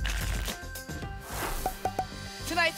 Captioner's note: whoosh